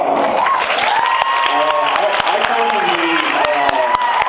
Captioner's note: cheers, applauds